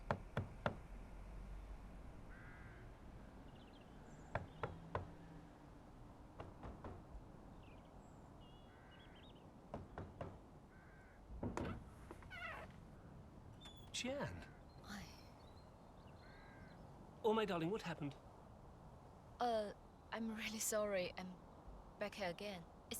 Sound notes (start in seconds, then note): 0.0 knocks; 4.4 knocks; 11.4 door creaks